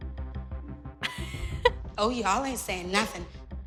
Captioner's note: laughs